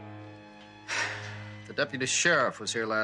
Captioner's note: sighing